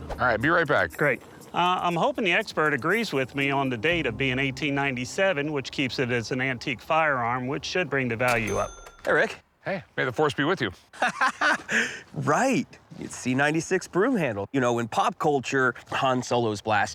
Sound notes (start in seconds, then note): 10.9 laughs